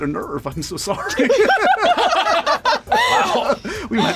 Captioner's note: laughter